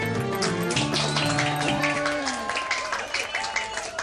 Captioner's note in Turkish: Alkış sesi